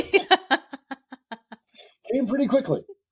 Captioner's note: laughing